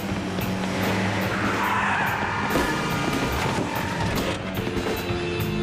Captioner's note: tires screech, horns blaring